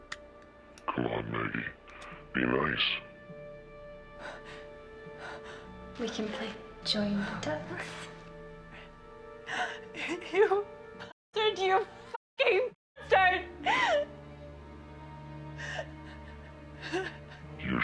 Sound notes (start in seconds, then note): 6.3 Maggie Voiceover